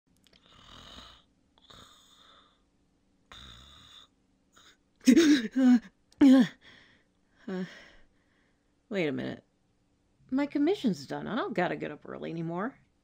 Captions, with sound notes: [Snoring] [Startled Gasping] Wait a minute... My commission's done, I don't gotta get up early anymore.